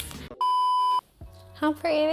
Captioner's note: beeping